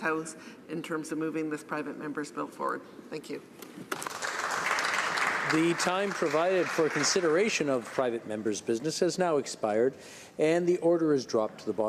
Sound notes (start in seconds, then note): 8.8 applause